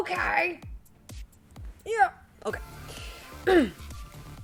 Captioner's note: clears throat